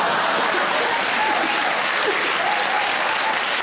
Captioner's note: audience laughs; audience claps